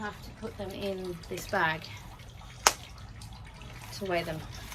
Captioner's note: button snaps open loudly